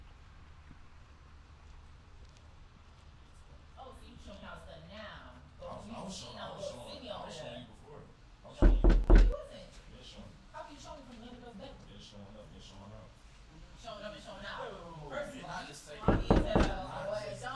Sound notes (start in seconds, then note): 3.5 yelling inside; 8.6 knock; 16.0 knock